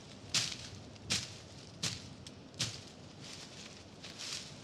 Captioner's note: branches rustling